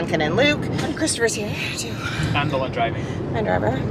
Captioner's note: sighs